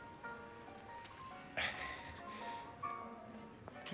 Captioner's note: laughs nervously